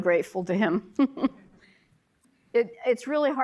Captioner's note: chuckling